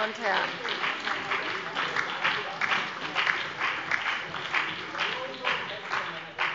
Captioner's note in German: Beifall